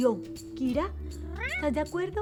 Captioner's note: meow